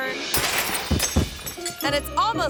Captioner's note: lights shattering